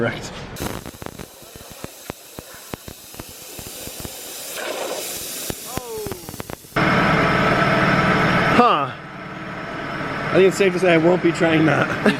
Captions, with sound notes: - Correct. (sizzling) - Oh! (machine roaring) - Huh, I think it's safe to say I won't be trying that.